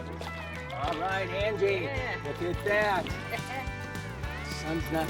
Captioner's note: laughs